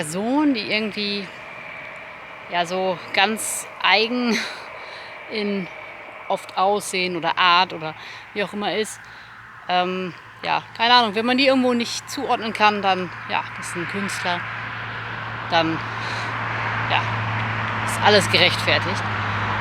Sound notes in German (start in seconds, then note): 4.1 seufzt